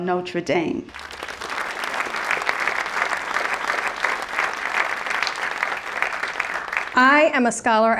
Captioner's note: applause